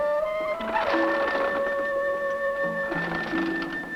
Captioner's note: door creaking